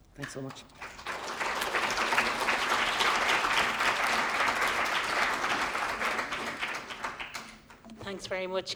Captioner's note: applause